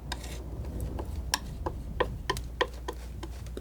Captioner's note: scratching